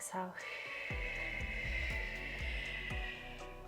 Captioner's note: exhales